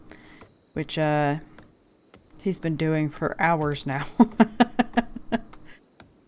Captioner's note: laughs